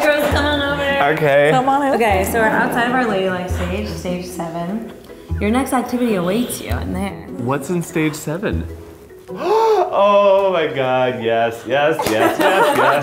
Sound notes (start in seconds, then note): 9.2 gasping; 12.0 laughing